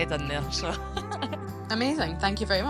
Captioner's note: laughs